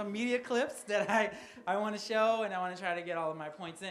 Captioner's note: laughs